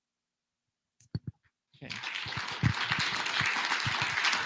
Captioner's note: applause